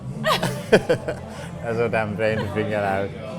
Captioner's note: both laughing